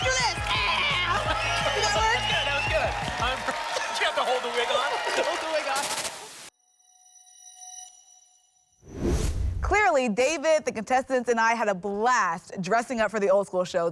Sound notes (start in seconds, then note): 7.2 futuristic sound